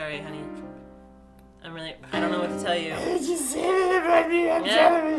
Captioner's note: sad piano music; crying